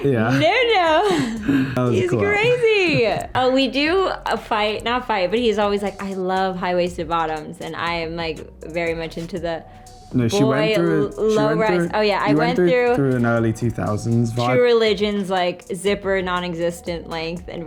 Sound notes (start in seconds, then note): 1.0 laughs